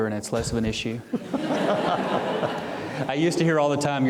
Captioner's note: audience laughing